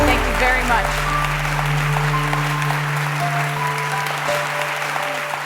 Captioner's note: applause